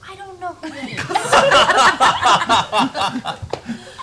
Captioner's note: laughter